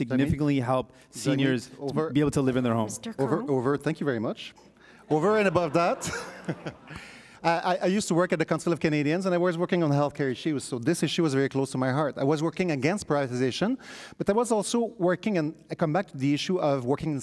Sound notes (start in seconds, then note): 5.2 chuckles; 8.0 audience laughs